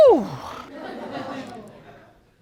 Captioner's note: audience chuckling